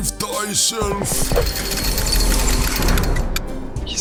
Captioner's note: chains rattling